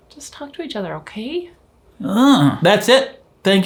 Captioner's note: groans